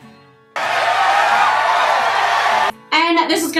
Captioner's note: audience cheers